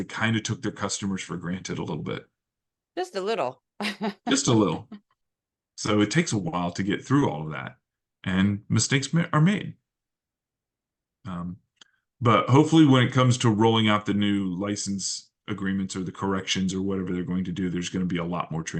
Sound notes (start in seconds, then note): 3.8 laugh